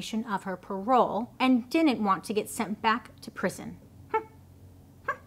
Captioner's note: babbles